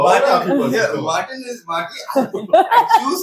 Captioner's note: laughs